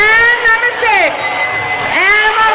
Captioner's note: dinging